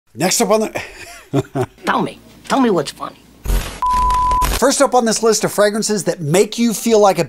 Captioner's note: chuckles